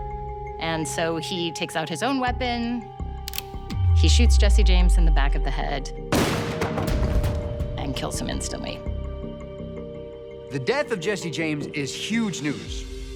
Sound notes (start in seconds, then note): 3.2 gun cocking; 6.1 gun firing